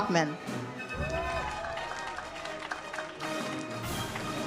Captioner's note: audience cheers